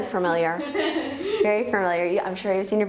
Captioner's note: laughing